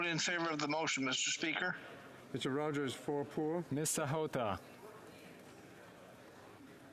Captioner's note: speaking French